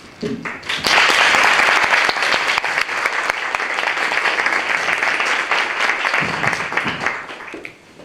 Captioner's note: applause